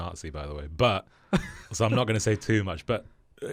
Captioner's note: laughs